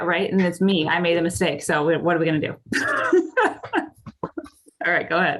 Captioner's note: laughing